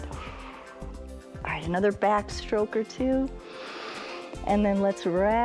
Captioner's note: exhales; inhales